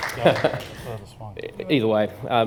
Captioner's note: applause